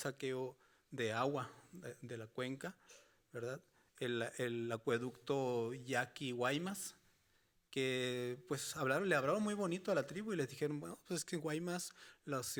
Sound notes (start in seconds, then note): 2.6 speaking Spanish continues